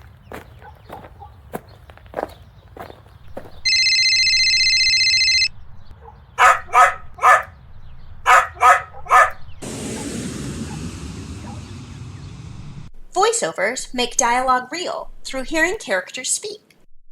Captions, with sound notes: [Walking sound effect] [Phone ringing sound effect] [Barking sound effect] [Airplane sound effect] voiceovers make dialog real through hearing characters speak